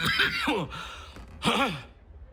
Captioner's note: coughing; grunting